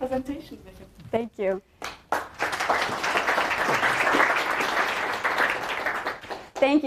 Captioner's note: applause